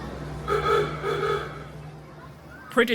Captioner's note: horn honking